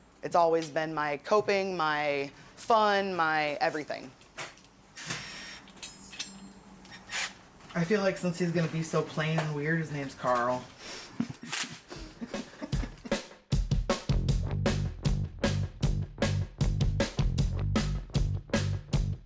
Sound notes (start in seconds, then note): 4.3 tool whirring; 12.1 upbeat music